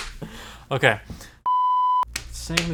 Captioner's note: electronic beeping